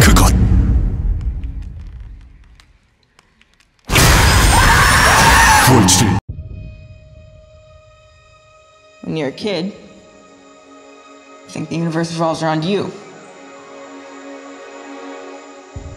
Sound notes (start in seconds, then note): 0.1 announcer speaking foreign language; 2.3 creaking wood; 3.9 screams; 5.9 announcer speaking foreign language